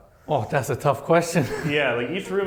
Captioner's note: laughs